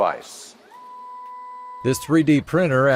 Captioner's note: printer whirs